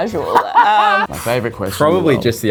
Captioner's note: laughs